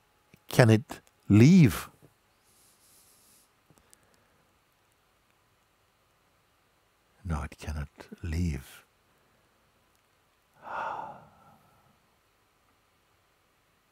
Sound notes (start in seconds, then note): 10.6 exhales